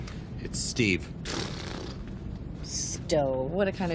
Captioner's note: lips sputtering